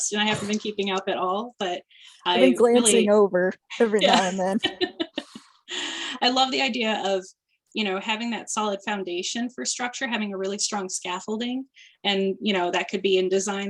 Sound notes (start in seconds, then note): 4.0 laughter